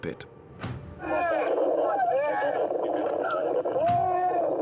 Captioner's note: screaming over radio